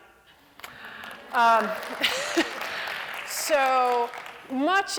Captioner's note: applause